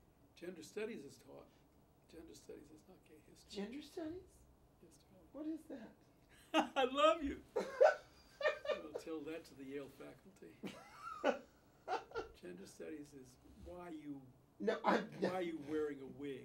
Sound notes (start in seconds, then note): 7.5 laughs; 8.3 Bunny laughs